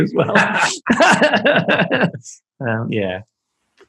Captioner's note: laughing